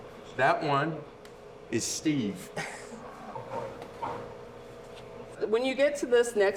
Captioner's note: laughing